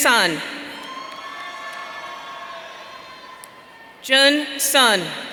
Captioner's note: audience cheering